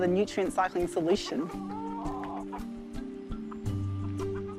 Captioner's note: clucks